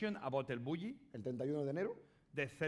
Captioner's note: speaking spanish